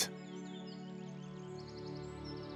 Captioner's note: birds tweet